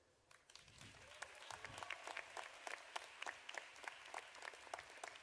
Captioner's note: audience applauding